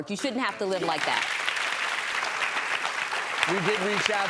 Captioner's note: applauding